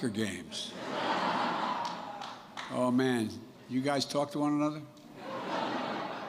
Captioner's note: laughter